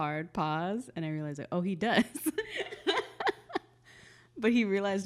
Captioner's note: laughs